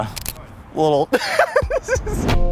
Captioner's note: laughs